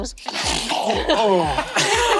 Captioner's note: snort sharply